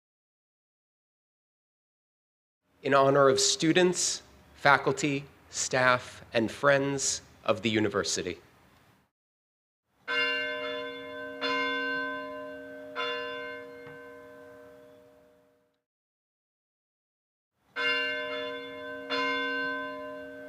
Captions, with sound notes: In honor of students, faculty, staff, and friends of the university. (bell ringing) (bell ringing)